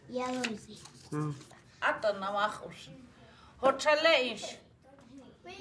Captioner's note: speaking Lakota